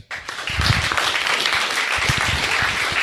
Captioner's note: crowd applauding